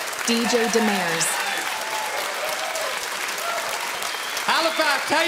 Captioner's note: audience cheering and clapping